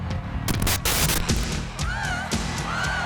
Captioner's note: screen hisses; audience cheering and clapping